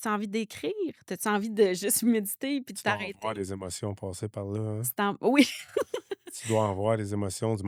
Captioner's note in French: rires